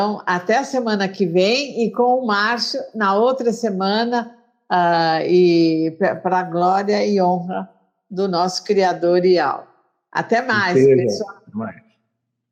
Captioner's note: Speaking Hebrew